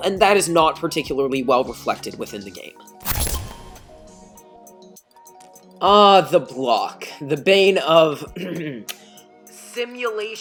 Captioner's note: cough